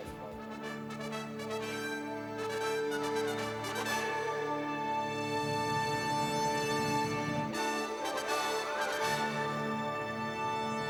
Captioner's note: applause